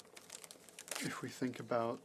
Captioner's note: speaking French